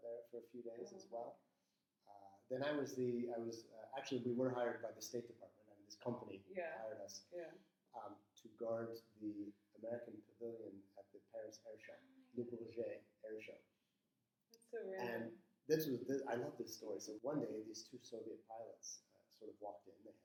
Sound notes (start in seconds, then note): 12.6 speaking in foreign language